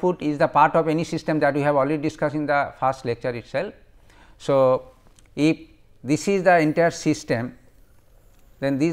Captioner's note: fuzzy